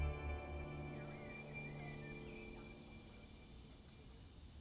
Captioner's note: birds chirping